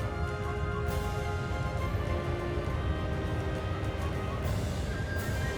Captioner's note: strong winds howl